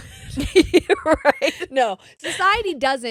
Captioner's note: laughing